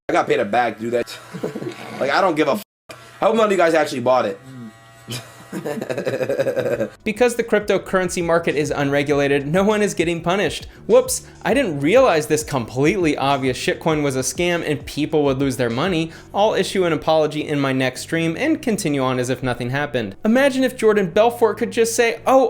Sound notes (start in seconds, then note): 1.2 both chuckle; 5.1 Adin laughs